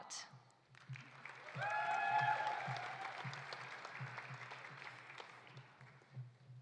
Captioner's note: audience applauding; audience cheering